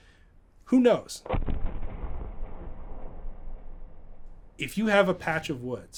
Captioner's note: thunderous booming